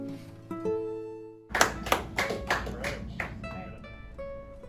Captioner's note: applause